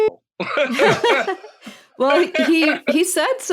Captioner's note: laughs